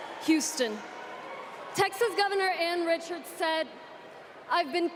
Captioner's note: applause